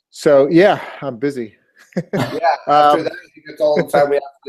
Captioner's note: laugh